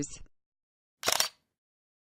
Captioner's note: camera shutter